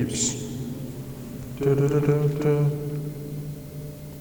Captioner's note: imitating beeps